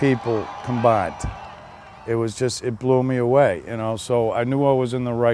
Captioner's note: laughs